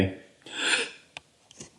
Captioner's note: soft laugh